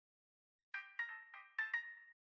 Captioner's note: chime